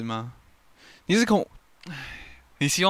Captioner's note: sigh